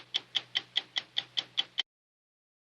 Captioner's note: ticking clock